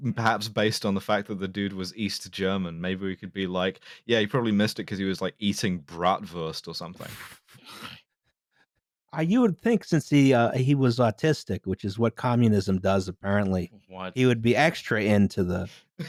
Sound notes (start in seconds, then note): 7.0 near-silent laughter